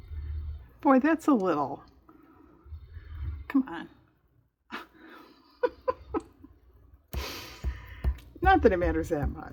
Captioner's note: laughs